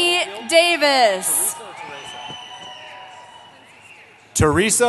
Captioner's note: cheering